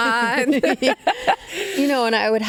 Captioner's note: both laughing